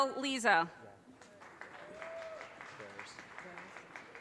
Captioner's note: audience cheers and applause